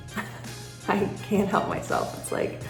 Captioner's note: laughs